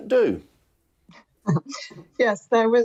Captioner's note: chuckles